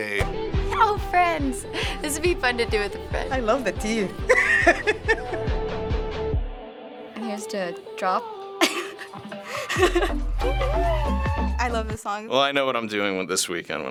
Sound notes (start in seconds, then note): 3.9 laughs; 7.6 laughs; 8.9 catchy beat